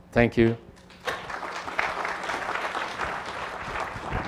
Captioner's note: applause